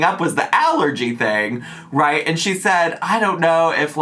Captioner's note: none